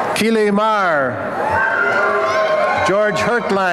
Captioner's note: applause and cheering